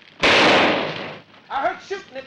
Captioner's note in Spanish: Disparo